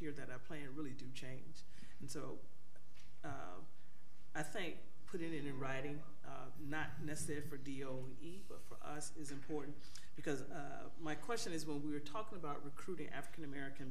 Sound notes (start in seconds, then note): none